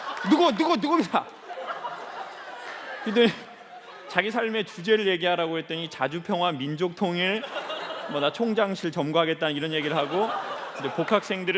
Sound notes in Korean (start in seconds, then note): 0.0 웃음; 7.3 웃음